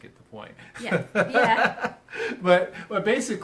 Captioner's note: laughs